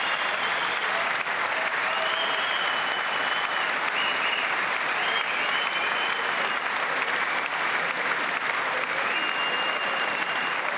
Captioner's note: cheers and applause